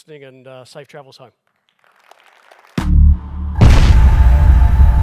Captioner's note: applause